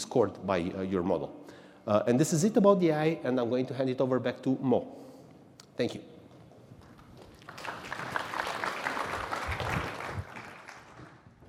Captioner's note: applause